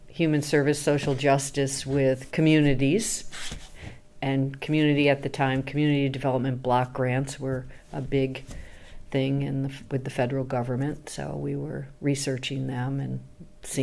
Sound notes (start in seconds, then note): 3.2 paper shuffling noise